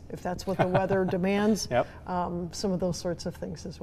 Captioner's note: laughing